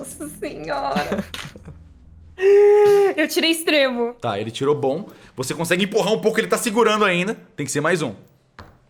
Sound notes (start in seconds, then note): 2.4 inhales